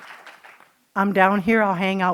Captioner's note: applause